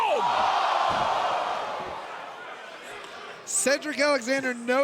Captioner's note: crowd exclaiming